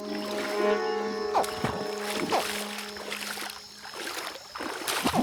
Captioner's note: water splashing